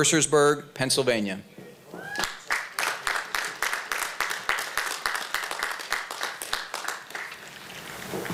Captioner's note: applause